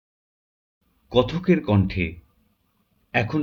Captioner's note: in the voice of the narrator